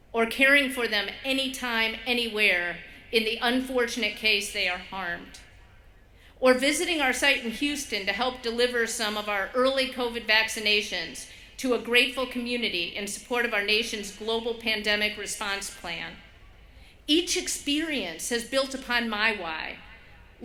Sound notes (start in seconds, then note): none